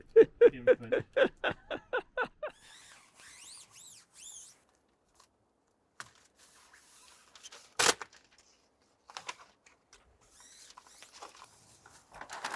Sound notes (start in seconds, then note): 1.6 speaker laughing; 2.5 paper squeaking